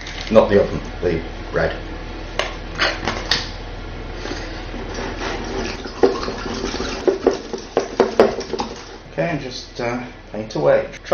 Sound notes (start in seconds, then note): 4.7 whisks egg